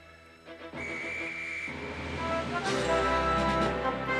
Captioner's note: guard blows whistle